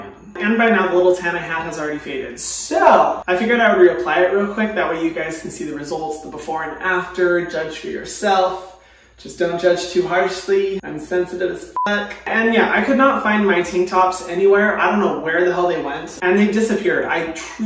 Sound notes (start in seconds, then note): 11.7 beep